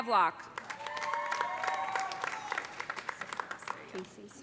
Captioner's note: cheers and applause